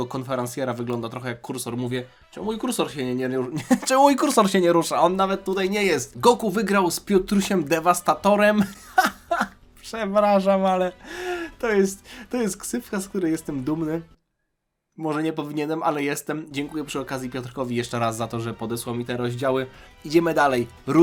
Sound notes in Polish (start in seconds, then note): 8.6 śmiech